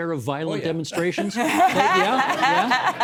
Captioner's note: laughing